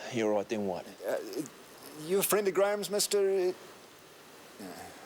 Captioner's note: stammers